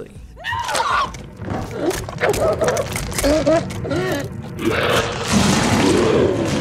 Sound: screams and monster noises

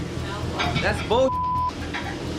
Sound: beep

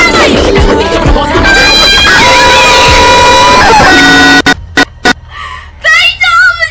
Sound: intense Aesthetic Screaming

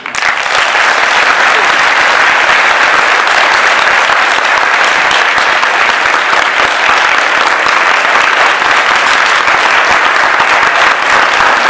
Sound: audience bursts into applause

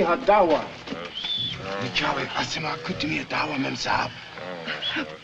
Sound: murmuring

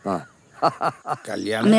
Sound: laughing

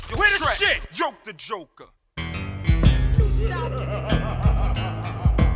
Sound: laughter

